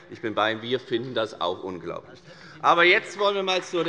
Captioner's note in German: Beifall bei der FDP